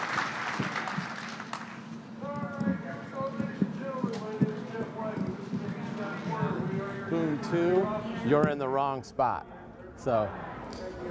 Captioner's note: applause